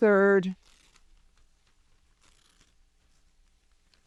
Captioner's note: paper ripping